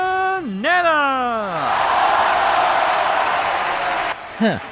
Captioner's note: applause